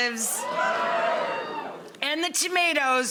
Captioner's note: audience cheering